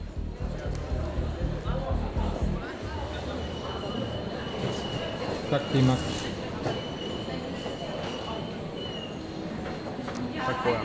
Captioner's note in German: Stimmen im Hintergrund